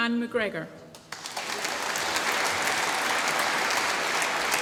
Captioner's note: applause